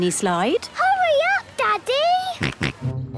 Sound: George snorts

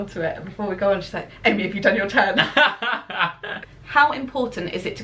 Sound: laughter

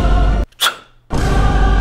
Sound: dramatic music; sneeze; dramatic music

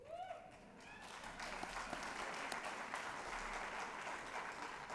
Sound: applause

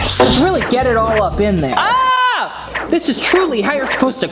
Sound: screams

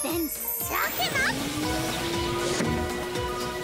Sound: whirring

